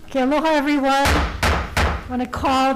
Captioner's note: hits gavel